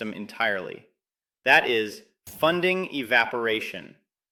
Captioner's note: emphasis